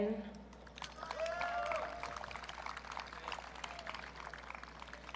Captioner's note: audience cheering